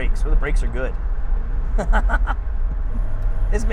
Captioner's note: laughing